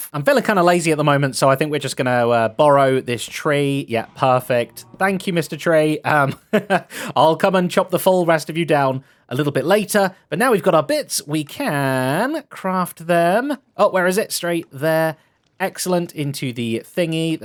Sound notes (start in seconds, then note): 5.8 laughs